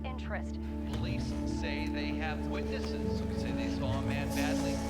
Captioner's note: TV announcer chattering